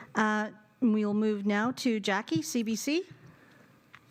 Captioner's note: speaking French